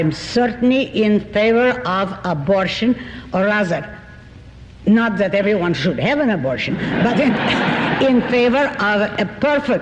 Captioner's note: laughter